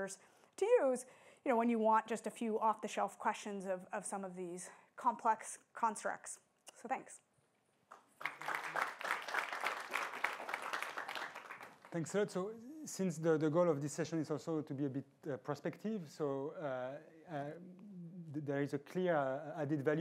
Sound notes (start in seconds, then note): 7.9 applause